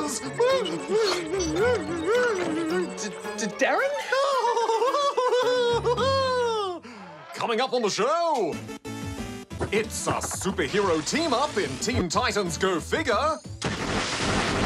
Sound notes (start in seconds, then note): 0.2 whines; 3.8 laughs hysterically